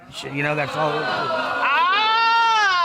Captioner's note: crowd hooting